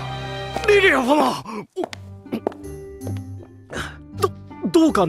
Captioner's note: gulp